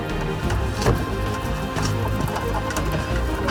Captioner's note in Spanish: Sonidos sinuosos